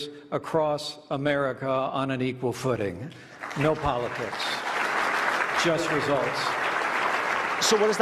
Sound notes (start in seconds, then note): 3.2 applause